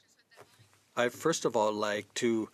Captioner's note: speaking French